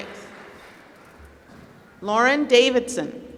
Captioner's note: applause